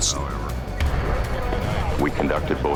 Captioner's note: police radio in background